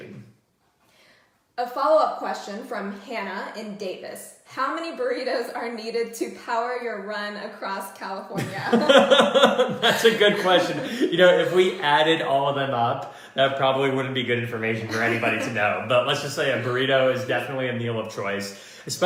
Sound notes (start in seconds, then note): 8.3 laughter